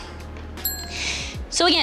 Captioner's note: bell chimes